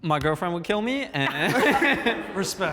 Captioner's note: laughs